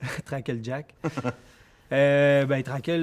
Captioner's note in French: rires